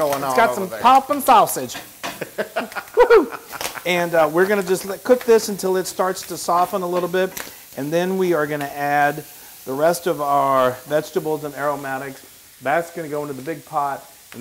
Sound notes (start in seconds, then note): 2.2 laugh